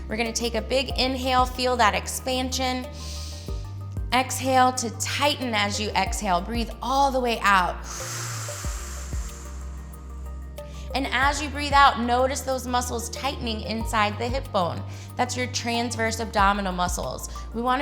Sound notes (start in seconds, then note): 3.0 inhales; 7.8 exhales